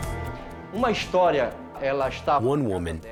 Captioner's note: speaking Portuguese